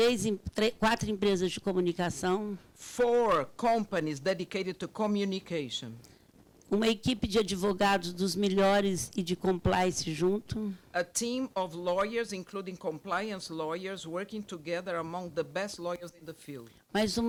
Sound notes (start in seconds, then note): 0.1 speaking Portuguese; 6.9 speaking Portuguese